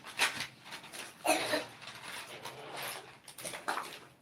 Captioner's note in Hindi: गला साफ़ करने की आवाज़